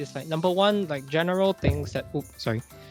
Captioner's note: object thudding